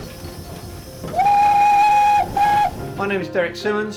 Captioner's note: train horn noise